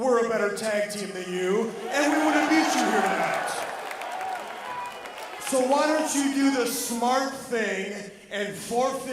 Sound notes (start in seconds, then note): 3.9 crowd cheering